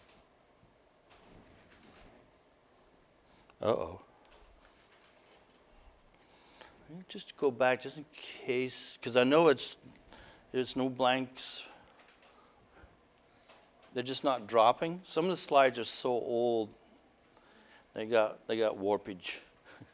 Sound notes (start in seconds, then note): none